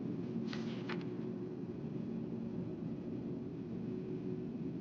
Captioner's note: pages clapping